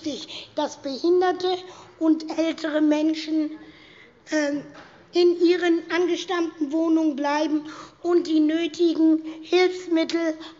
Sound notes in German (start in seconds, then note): none